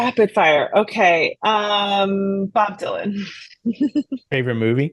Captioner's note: laughs